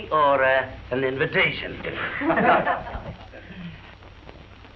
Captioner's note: laughter